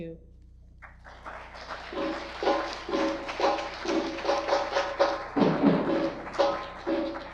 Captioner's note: audience applause; drumming begins